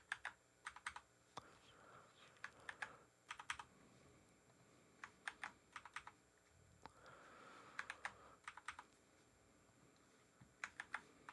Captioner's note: typing